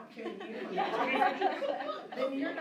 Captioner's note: laughter